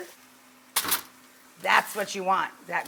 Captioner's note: naan thuds